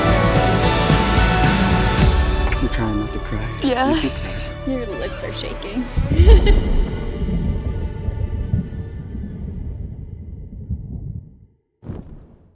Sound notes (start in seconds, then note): 6.0 chuckles; 6.1 both laughing; 7.3 mellow string music